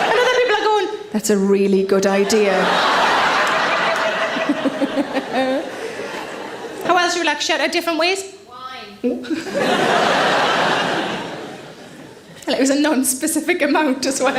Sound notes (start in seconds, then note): 2.2 audience laughs; 4.3 Sarah giggles; 9.2 audience laughs